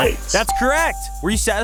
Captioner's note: bell ringing